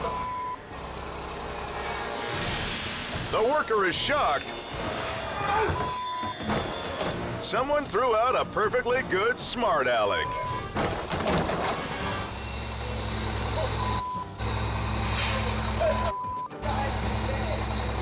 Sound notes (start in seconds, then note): 10.8 can thuds